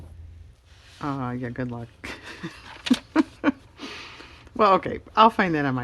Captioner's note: laughs